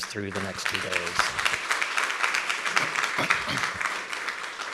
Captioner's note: audience applauds